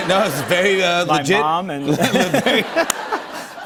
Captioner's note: laughter